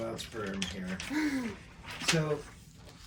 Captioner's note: laughs